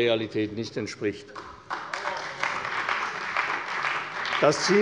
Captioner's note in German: Beifall bei der CDU